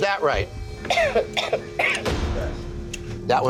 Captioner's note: coughs